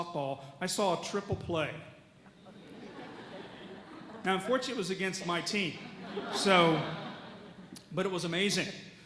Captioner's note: audience laughs